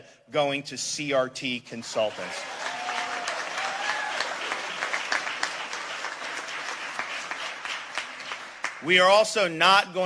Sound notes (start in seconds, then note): 1.8 鼓掌